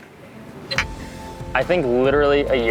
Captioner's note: bottles clink